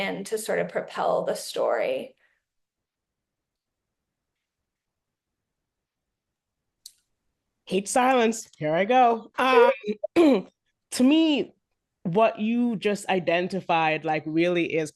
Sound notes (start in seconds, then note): 9.4 laughs